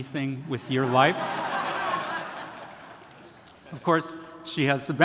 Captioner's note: attendees laughing